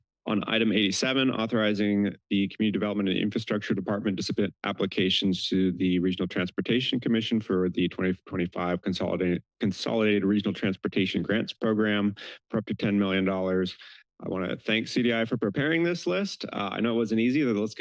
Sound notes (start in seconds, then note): none